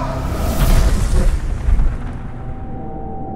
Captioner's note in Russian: звук ветра; звук огня